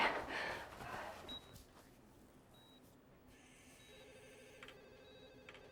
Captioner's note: machine beeping